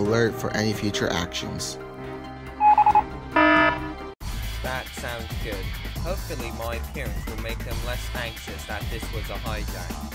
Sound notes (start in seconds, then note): 2.6 alarm; 2.6 morse code